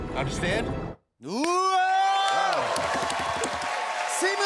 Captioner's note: cheers and applause